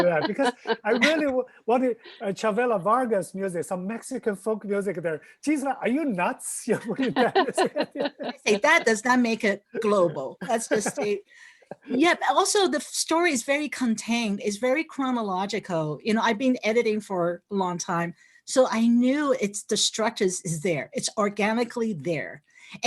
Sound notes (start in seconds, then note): 6.8 laughs; 6.8 laughing